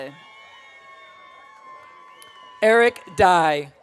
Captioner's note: audience cheering